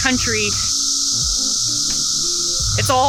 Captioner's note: cicadas chirp